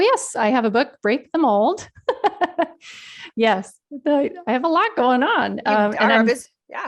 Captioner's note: laughs